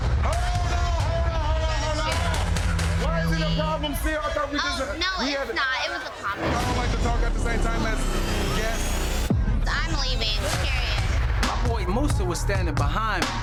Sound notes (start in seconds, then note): 6.1 people chattering; 7.1 tense suspenseful music